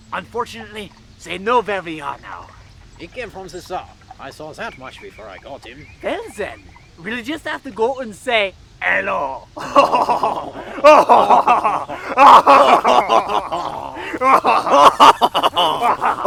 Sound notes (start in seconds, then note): 9.6 laughter; 12.0 maniacal Laughter